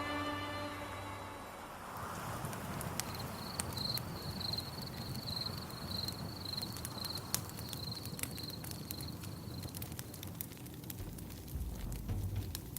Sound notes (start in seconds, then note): 1.8 crickets and a crackling fire; 11.0 drum beat